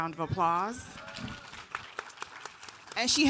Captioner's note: audience applauding